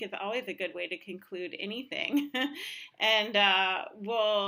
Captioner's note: laughter